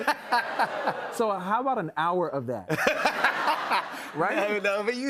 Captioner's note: laughter